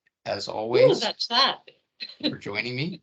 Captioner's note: laughing